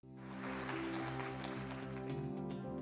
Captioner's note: clapping